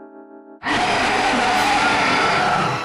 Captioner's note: roars